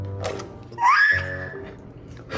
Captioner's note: scream